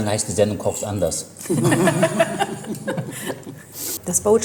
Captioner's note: laughs